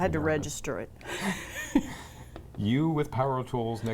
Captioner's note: laugh's